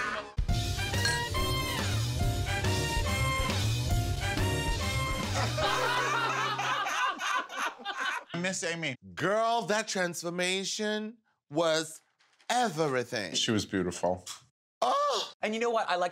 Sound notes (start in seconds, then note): 5.3 laughter